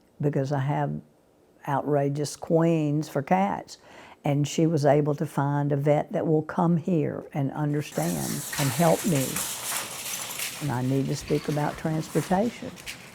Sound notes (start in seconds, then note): 7.7 grocery cart clanking